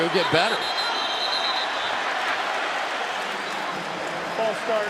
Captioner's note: whistle